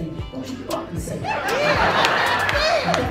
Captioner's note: laughing